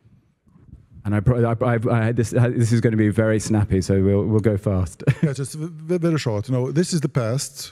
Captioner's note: laugh